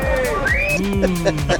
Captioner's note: laughs